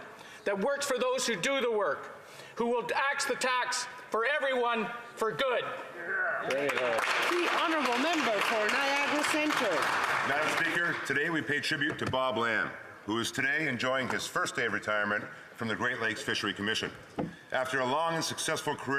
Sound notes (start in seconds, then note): 9.5 some Applause